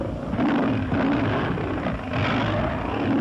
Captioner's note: tiger roars